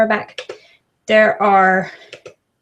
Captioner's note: trackpad clicks